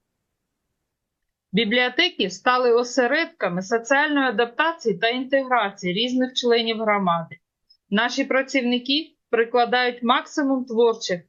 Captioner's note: foreign language